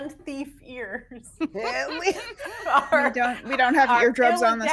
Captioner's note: people laughing